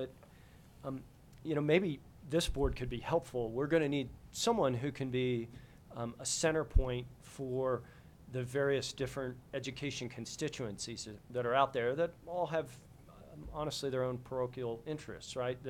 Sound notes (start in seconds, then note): none